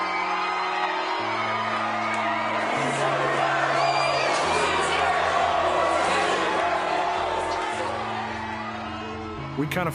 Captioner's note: fans chanting